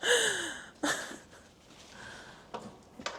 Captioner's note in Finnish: naurua